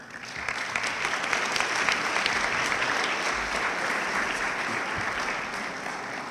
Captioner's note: audience clapping